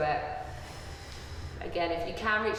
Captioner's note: breathing